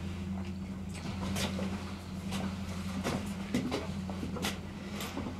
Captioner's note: footsteps approaching